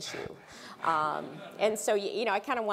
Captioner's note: laugh